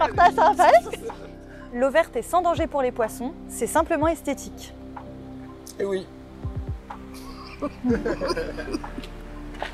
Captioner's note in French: rire